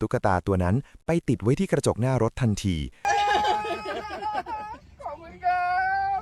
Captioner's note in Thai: เสียงหัวเราะ